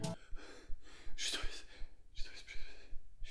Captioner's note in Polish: szept